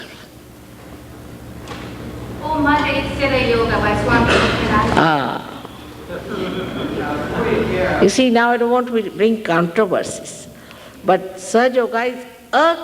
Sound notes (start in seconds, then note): 3.7 laugh